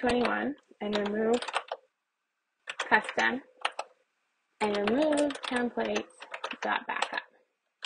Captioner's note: keyboard presses; keyboard presses